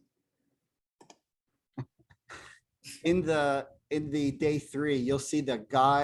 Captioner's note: laughter